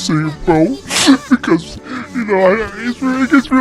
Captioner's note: sniffles